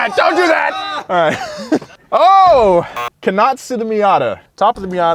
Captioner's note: laughs